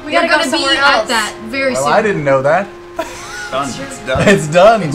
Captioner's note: laughs